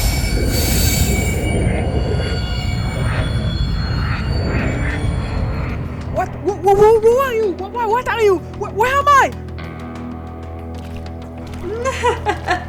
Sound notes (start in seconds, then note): 3.9 Portal sounds; 11.4 laugh